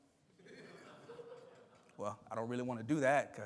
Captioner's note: attendees laughing